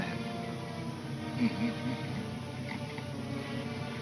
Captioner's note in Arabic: يضحك